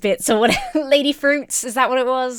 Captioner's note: laughs